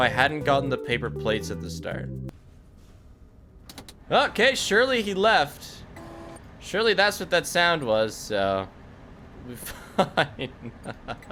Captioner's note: laughs